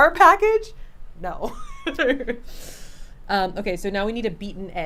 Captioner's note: laughs